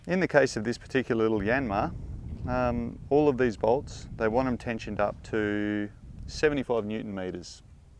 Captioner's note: none